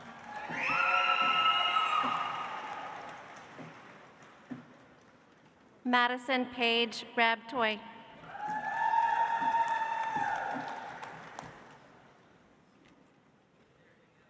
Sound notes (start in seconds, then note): 0.0 audience applauds; 8.3 audience applauds